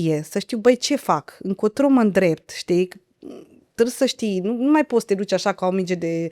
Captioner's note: clears throat